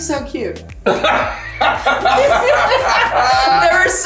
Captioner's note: laughing